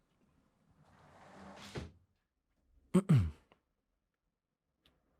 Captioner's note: sound of door closing